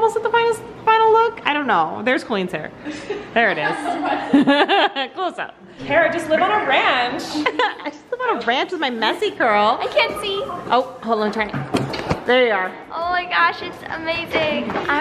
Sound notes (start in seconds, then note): 2.8 girls laughing; 7.1 laughs